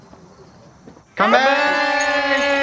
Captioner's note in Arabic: هتافات